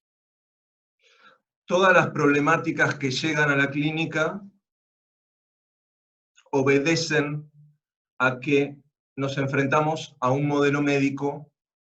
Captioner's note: Spanish